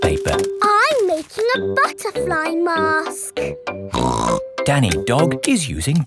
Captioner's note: snorts